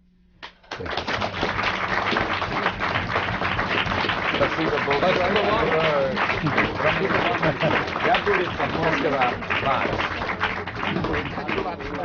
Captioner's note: applause